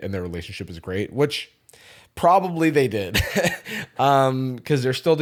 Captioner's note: laughs